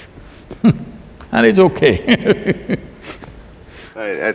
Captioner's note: laughs